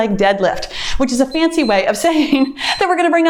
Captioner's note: timer beeps